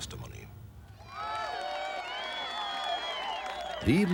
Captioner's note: crowd cheering